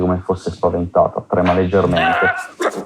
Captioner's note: screams